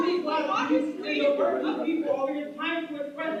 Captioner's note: audience Shouting